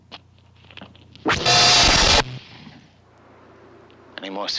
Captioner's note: zapping